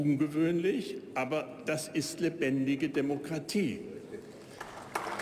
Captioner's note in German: Beifall bei der AfD